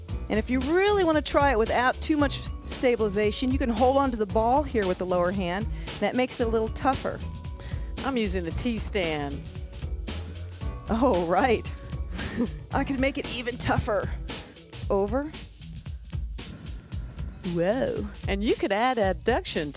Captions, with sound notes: And if you really want to try it without too much stabilization, you can hold on to the ball here, with the lower hand, and that makes it a little tougher. - I'm using the T-stand. - Oh right. (both chuckle) I can make it even tougher, over. Whoa. - And you can add abduction